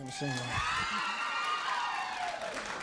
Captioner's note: ladies cheering